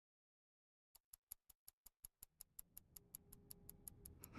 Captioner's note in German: uhr tickt